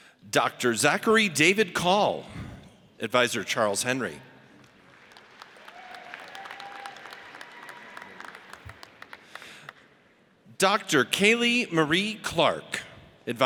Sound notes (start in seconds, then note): 5.5 audience cheers